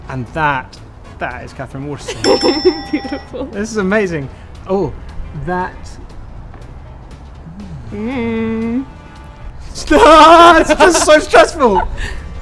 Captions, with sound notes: - And that is Katherine Waterston. (bell rings) - Beautiful - This is amazing. That (screams) it's just so stressful.